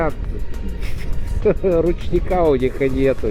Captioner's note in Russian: смех